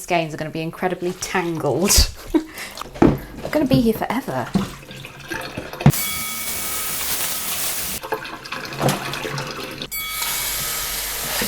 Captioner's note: drain gurgling; bell dings